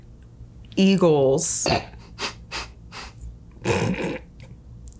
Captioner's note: laughs